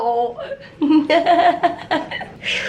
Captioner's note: chuckling